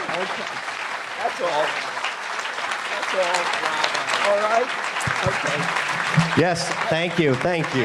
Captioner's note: applause